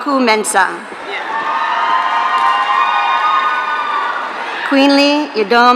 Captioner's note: audience cheering